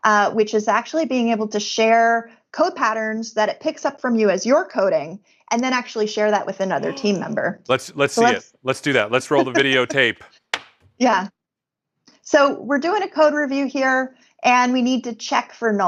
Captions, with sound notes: IS ACTUALLY BEING ABLE TO SHARE YOU AS YOUR CODING, AND THEN ACTUALLY >> [GASPING] LET'S SEE THAT. LET'S A CODE REVIEW AND WE NEED TO CHECK